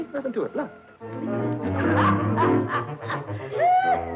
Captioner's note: Minnie laughing